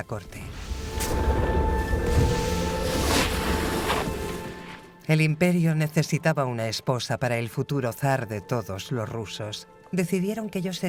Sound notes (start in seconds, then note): 0.2 snow crunching; 1.9 sled scrapes